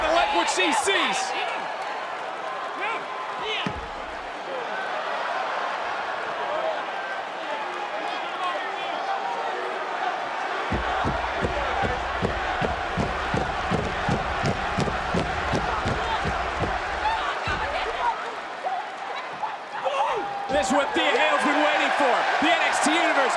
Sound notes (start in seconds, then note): 11.3 crowd chants "thea"